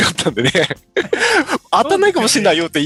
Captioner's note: laughs